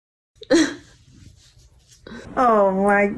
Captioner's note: laughs